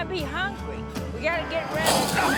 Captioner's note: snap & growl